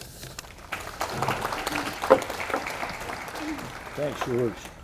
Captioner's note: audience applauding